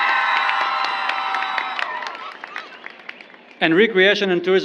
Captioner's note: applause